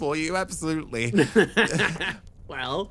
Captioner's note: Etete Laugh